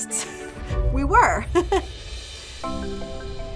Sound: chuckling; light music

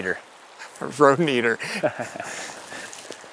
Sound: laughs

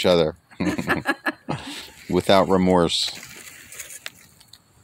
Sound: laugh

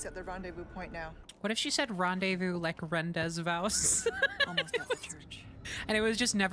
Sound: laughter

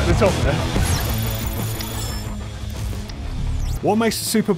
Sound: electronic blip

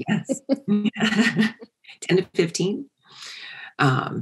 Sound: laugh

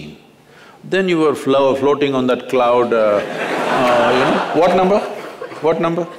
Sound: laughter

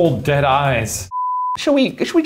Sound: beeping

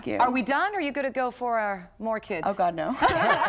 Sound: laughter

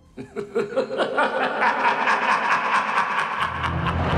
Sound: maniacal laughing

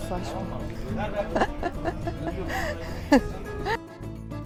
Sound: laughter

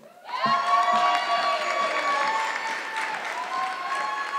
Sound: audience clapping

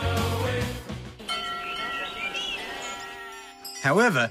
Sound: bells ring

